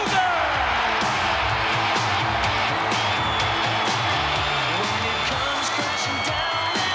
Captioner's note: crowd cheering; pounding rock music